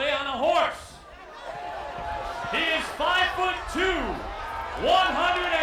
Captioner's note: applause